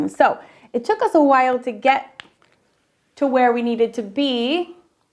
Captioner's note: none